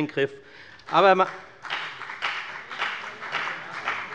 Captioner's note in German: Beifall bei der FDP - Widerspruch bei der CDU